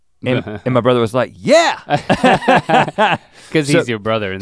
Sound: both chuckle

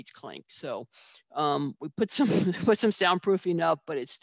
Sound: laughs

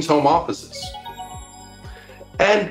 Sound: magical sound

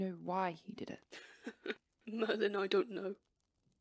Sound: James laughs humourlessly

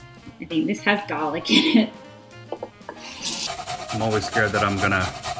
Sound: laughs

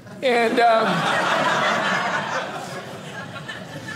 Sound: audience laughing

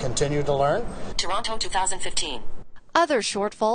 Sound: computerized female voice

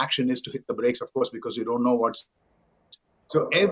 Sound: microphone cuts out

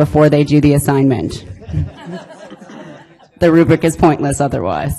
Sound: audience laughing

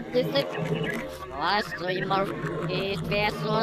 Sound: laughing

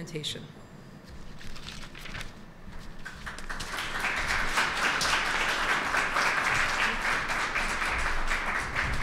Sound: applause

